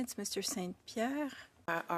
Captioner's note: speaking French